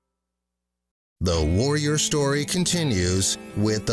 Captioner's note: voiceover